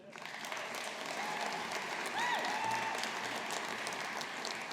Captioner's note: audience applauding